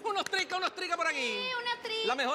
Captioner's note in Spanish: Palmeando